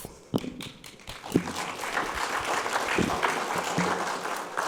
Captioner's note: audience applauds